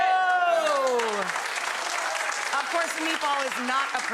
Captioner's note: audience applause